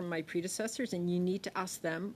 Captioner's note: speaking French